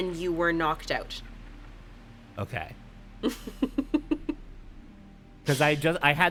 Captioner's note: chuckles